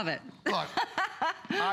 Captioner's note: laughter